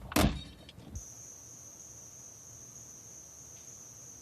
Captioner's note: crickets chirping